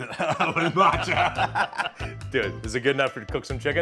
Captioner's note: laughing; both laughing